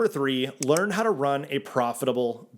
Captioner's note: graphics click